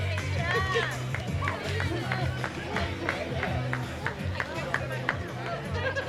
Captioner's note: clapping